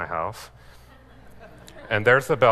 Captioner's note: laughing